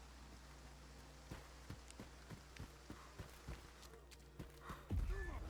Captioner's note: footsteps